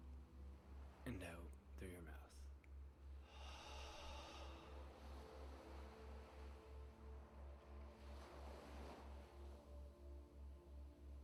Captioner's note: exhale